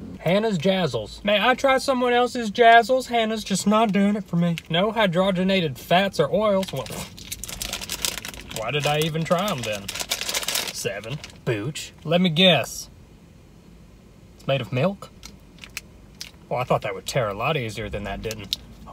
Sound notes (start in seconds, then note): 7.2 scoffs; 10.4 package crinkling